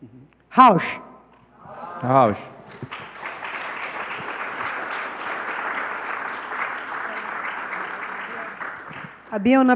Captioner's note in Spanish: Aplausos